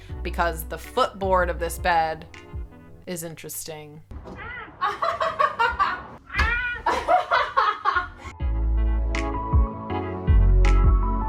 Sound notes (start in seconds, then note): 6.4 laughing; 8.7 chill music